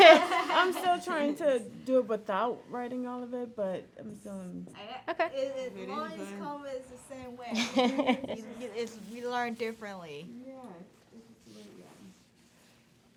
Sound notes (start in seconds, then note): 0.0 class laughing; 7.5 chuckling